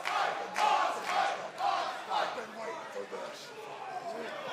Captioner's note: crowd cheering